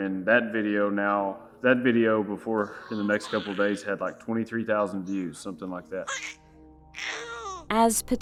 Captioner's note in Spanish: El bebé hace ruidos alegres